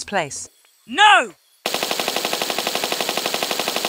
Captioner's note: bratatatatata